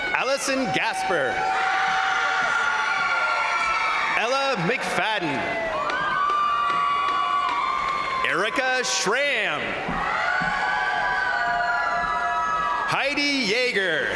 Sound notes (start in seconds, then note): 1.0 crowd applauding; 1.6 crowd cheering; 5.1 crowd applauding; 5.5 crowd cheering; 9.6 crowd cheering; 9.7 crowd applauding